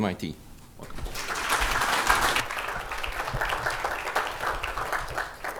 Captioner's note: applause